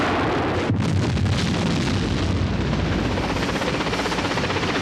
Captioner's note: bombs exploding